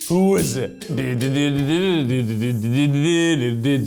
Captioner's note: humming